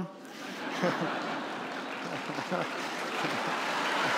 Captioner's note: laughter; cheers and applause